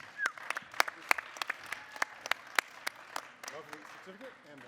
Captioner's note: audience applauding